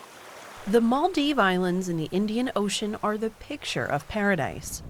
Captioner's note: voice-over